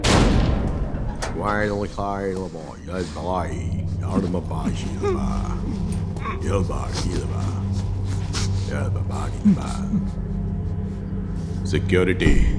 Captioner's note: foreign language